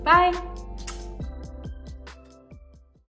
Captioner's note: blows kiss